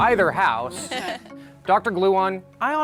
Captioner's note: chuckles